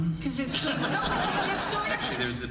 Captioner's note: audience laughing